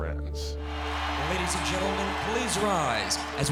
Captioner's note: crowd cheers